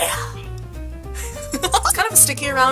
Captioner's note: joyful Giggles